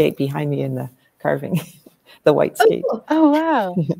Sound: chuckles

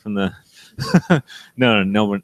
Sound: laughs

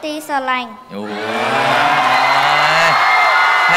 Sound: cheer and applause

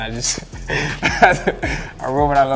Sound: laughs

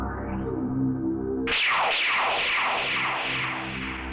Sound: gun Firing

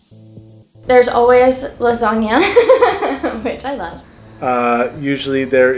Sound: laughs

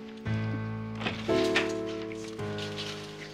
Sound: door opens and closes

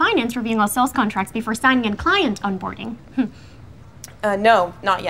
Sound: chuckles

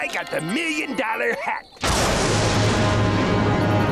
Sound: thundering

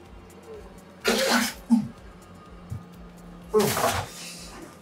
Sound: vomiting

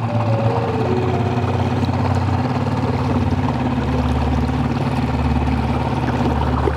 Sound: ominous music continuing; motor rustling continuing

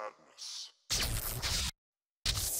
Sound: voice echoing; TV static

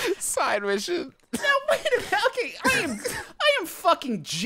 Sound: laughing

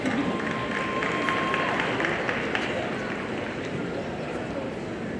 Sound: audience applauding

